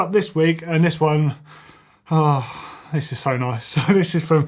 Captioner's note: sighs